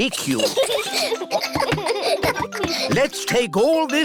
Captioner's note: snorts; children giggle